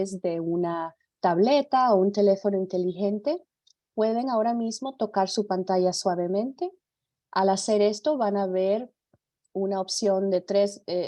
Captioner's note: speaks in Spanish